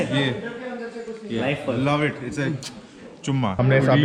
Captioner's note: kisses